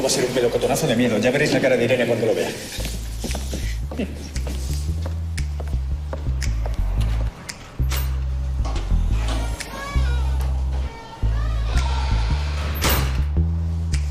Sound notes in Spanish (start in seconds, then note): 8.1 La puerta se abre y se cierra; 13.5 Música de misterio